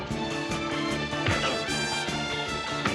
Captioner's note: grunting